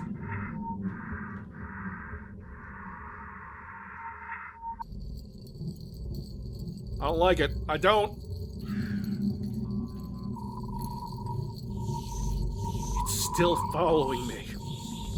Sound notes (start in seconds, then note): 0.8 weird breathing noises; 8.4 more creepy noises